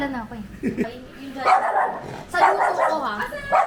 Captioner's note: dog barking